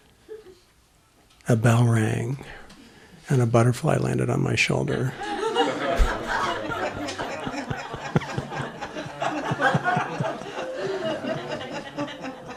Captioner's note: laughter